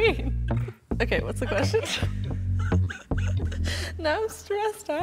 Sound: laughs

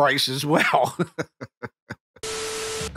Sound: laughing

